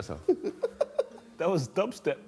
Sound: man laughs

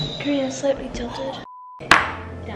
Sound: beep

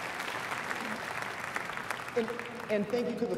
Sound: applause

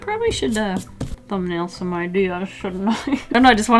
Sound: laughs

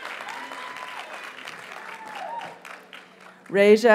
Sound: audience cheers and applauds

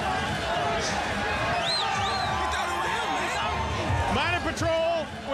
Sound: whistle

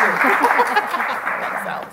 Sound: laughs

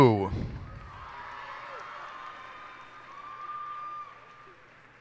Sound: cheers and applause

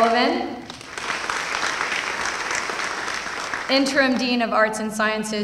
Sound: applause

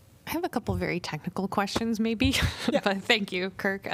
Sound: laughter

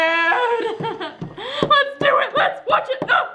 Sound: laughs

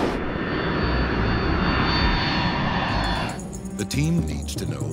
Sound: airplane engine roaring

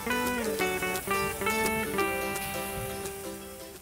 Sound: sizzling

